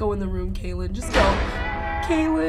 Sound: door slams

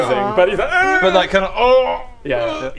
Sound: oowwh

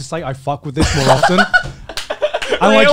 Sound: laughs

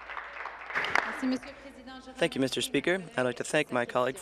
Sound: applause

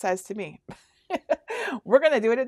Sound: laughing

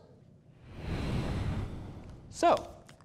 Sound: air whooshing

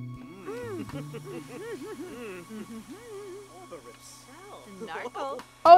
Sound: Sims laughing and babbling

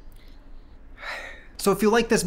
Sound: sigh

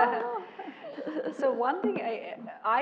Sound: laugh

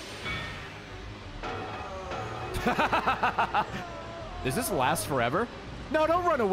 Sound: laughs

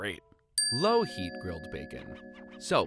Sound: dings

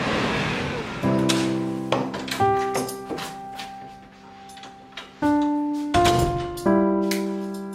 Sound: bus passes; door opens and closes

